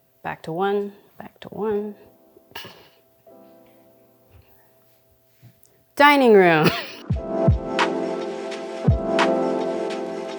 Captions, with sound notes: back to one, (gentle upbeat music) back to one, dining room (chuckling). (upbeat music)